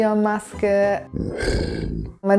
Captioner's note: growling